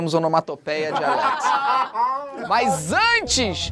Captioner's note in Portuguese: risadas